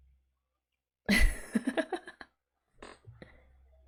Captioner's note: laughs